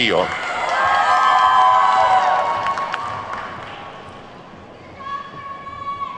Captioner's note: attendees whooping and clapping